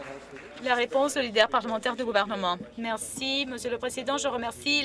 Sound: some Applause

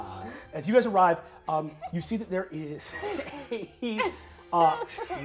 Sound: laughing

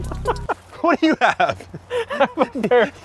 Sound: laughing

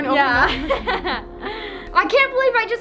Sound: both laugh

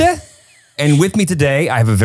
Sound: laughing

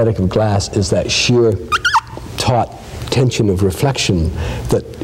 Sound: squeaks

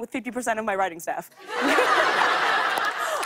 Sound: laughter

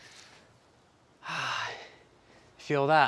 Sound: exhales deeply

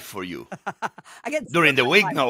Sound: Hoda laughs

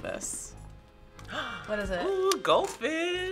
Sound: gasps

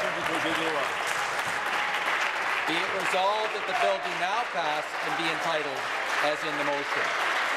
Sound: applause

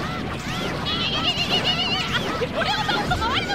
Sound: duck battle cry

